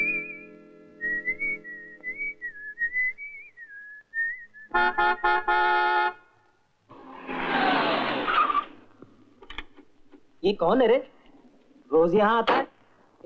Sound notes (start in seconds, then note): 4.7 horn Honking; 6.9 tires Screeching